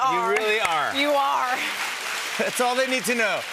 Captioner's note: applause